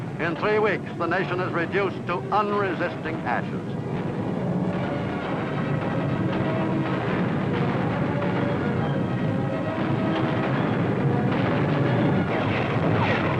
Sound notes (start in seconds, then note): 7.2 artillery blasting; 10.4 dramatic music